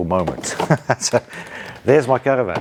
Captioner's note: laughing